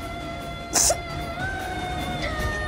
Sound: sobs

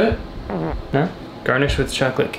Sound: farting

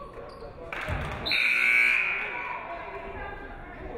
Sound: buzzer buzzes

